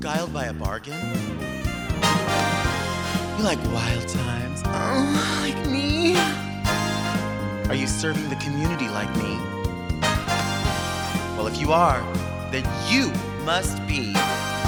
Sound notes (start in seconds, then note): 0.0 lively music; 2.6 lively music; 4.6 moaning; 6.2 lively music; 9.6 lively music